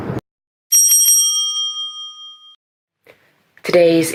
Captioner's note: bell rings